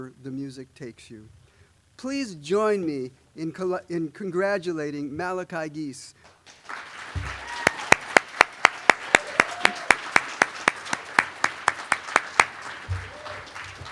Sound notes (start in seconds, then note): 6.2 applause